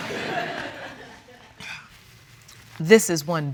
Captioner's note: laughter